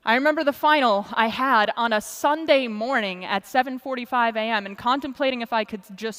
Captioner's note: none